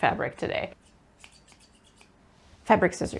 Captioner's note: laughs; scissors do the snip snip